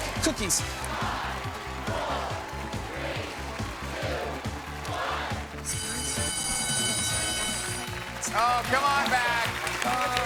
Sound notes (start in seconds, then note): 5.6 alarm blares